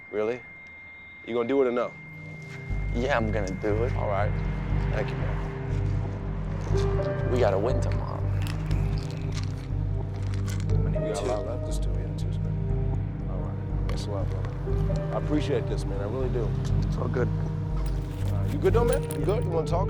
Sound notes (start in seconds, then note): 6.1 dramatic piano over ominous orchestral music; 10.2 pills rattling